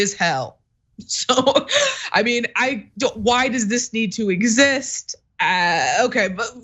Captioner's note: laugh